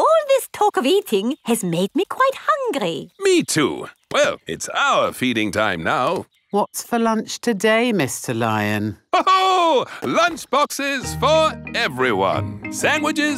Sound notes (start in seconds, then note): 9.1 laughs